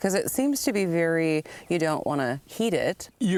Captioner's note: none